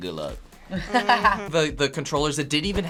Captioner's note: laughs